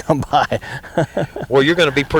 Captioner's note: laughter